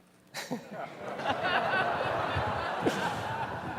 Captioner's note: laughter